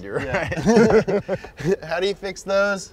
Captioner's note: both laughing